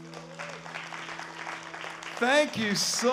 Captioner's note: applause